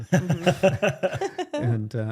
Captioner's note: laughing